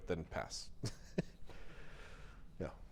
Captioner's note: chuckles